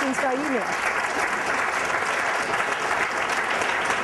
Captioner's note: applause